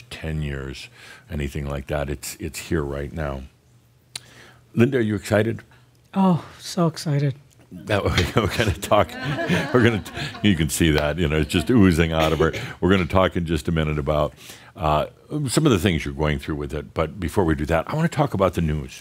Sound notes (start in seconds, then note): 7.0 in a somewhat sarcastic tone; 7.9 chuckling; 9.0 some chuckles